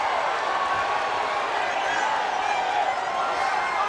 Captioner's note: crowd cheering